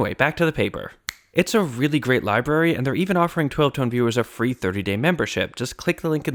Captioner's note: snap